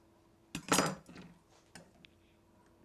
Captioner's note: setting knife on counter